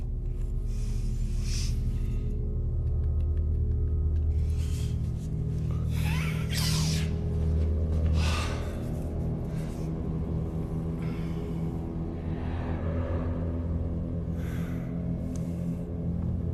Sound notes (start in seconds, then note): 5.6 sniffare